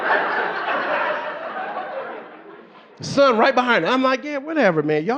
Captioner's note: audience laughing